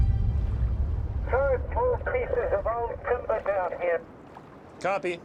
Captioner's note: speaking over radio